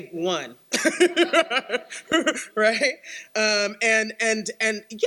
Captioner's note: laughs